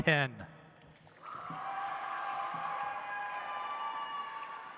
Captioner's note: audience applauds